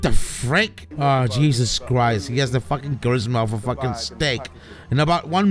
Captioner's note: talking behind